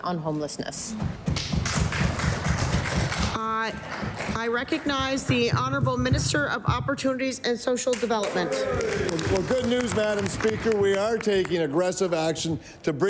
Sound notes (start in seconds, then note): 6.6 some Applause; 12.0 applause